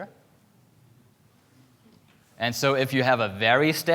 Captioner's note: none